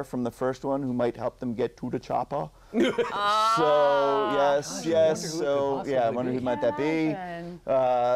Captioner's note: laughter